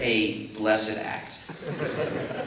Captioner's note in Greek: Γέλια από το ακροατήριο